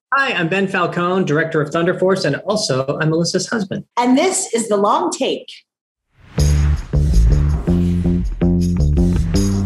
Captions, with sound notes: - Hi, I'm Ben Falcone, director of "Thunder Force," and also I'm Melissa's husband. - And this is The Long Take. (upbeat music) (whooshing sound) (upbeat music) (whooshing sound)